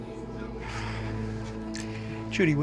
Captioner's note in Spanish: suspirando